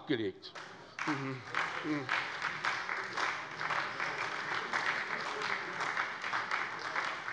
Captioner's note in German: Beifall bei der SPD